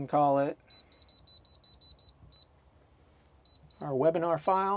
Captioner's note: beeping; beeping